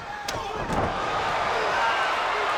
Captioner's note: spectators cheering; Lord Steven thuds